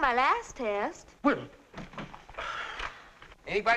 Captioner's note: sighs